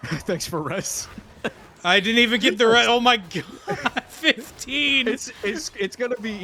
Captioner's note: laughter